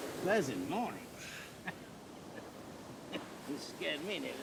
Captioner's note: laughing